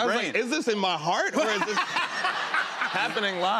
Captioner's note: laughter